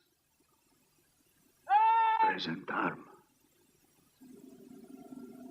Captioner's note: man yelling commands